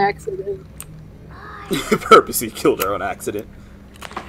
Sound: laughs

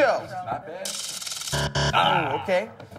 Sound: buzzer

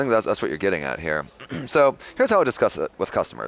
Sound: clears throat

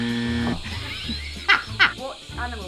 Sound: incorrect buzzer; laughs

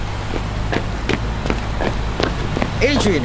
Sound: grunts

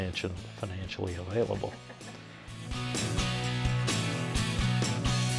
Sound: laughing

